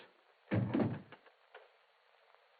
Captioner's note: door clicking shut